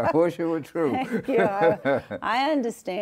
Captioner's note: both laughing